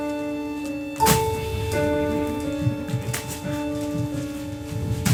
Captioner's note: bag thuds